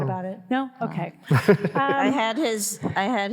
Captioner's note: all laughing